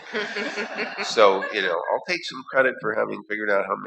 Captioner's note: laughter